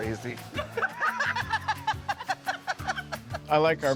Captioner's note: they laugh